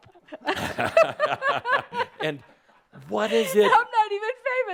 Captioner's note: they both chuckle